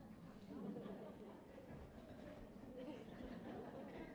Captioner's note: laughter